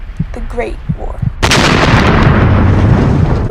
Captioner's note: loud cannon fire over intense music